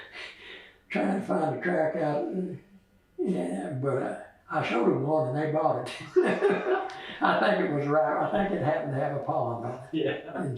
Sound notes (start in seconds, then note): 5.8 laughs